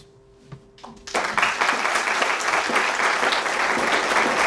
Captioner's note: audience applause